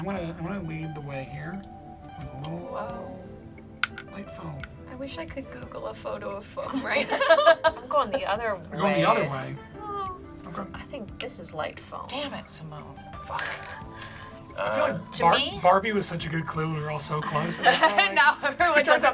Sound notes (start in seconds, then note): 6.7 laugh; 17.2 laughs